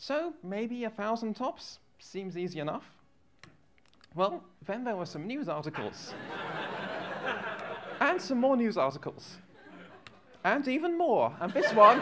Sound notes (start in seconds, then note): 5.7 laughter